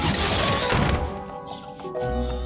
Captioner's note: slam